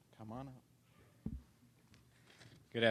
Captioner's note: none